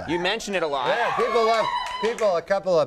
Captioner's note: audience cheering